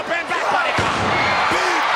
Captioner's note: wrestler thudding